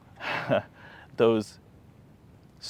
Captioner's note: laughs